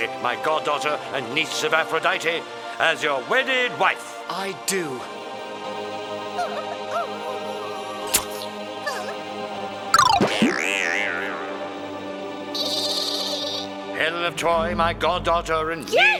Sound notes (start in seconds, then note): 5.3 enchanted whimsical music; 12.5 laughter